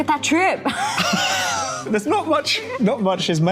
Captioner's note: laughing